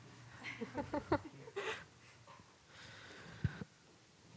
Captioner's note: laughs